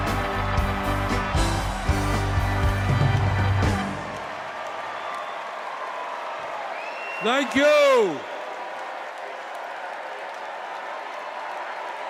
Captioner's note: cheers and applause